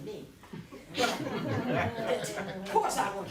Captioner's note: laughter